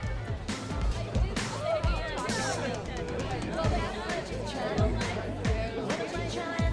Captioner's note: groovy music; people chattering